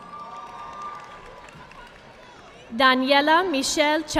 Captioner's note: audience clapping